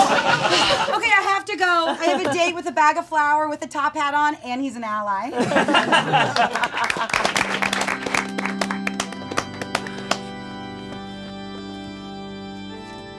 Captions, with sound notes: Okay, I have to go. I have a date with a bag of flour with a top hat on and he's an ally. (audience laughing and applauding) (sad organ music)